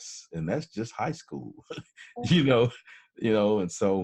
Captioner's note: laughs